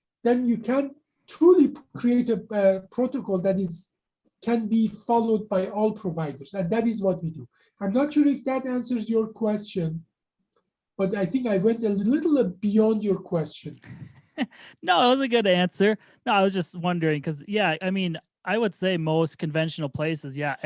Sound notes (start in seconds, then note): 13.8 chuckles